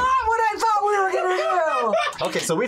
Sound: laughs

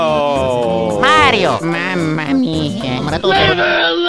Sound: italian gibberish

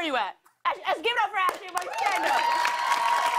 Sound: cheers and applause

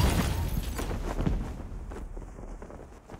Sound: parachute flutters in wind

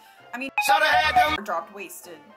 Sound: confused tones

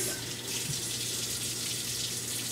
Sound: water Running

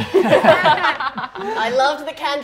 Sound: cast laughing

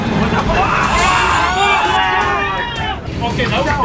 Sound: high pitched screaming

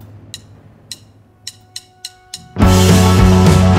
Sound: drumsticks clacking; upbeat rock music

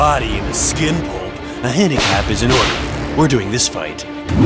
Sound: belt snaps

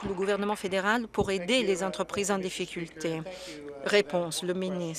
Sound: some Applause

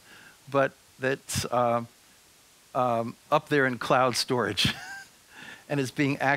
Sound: chuckles

